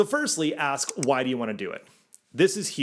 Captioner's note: graphics click